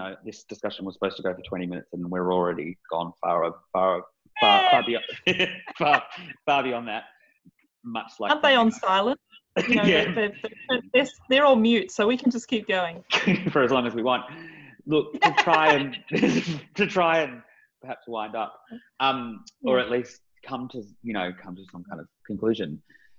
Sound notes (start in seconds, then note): 4.4 laughing; 15.1 laughing